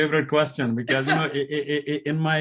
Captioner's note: laughing